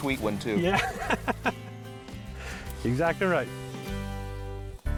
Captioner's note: laughing